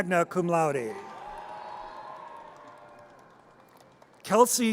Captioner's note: audience cheers